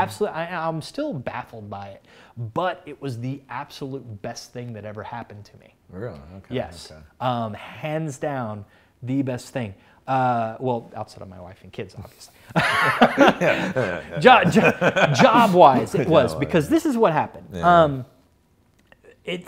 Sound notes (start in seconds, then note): 12.5 laughs